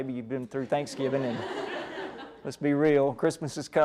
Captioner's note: laughter